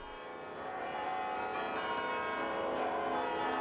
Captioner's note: bells ringing